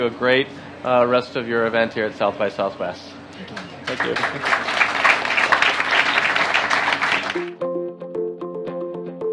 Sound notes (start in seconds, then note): 3.8 audience clapping; 7.3 bright music